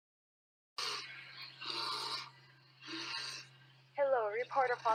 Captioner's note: bear growls